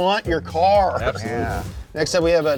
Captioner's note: air whooshing